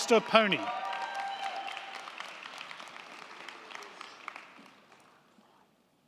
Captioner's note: crowd cheering; crowd clapping